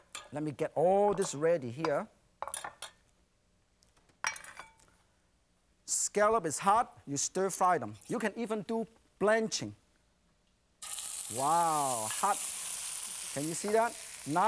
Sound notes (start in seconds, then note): none